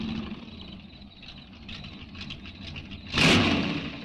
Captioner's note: insects chirping; engine rumbles